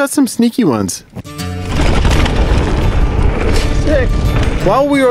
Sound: tires rumbling on the ground; country rock music

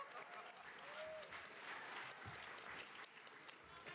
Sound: the crowd laughs and claps joyously; round of applause

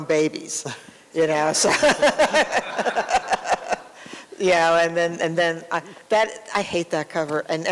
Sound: laughter

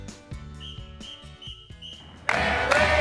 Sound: whistle blowing

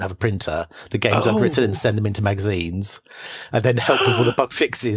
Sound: laughs

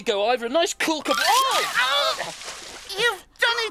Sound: yells

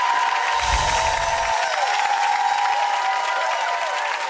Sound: audience applauding

